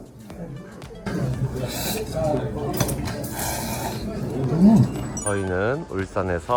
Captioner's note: noodle-slurping ASMR